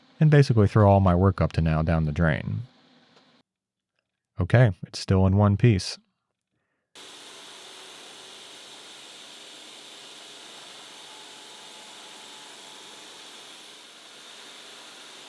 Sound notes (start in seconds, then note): 7.0 machinery whirring